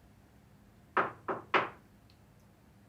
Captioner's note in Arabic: طرق الباب